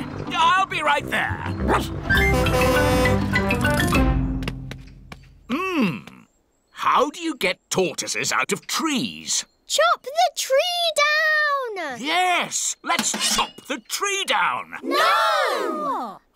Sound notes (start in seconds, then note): 1.6 barks; 2.2 horn honking